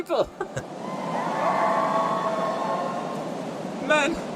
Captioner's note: city cheers